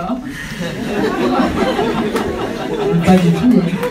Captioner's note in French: rires